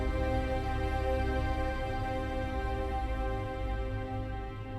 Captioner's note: none